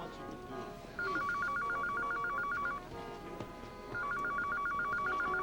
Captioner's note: telephone ringing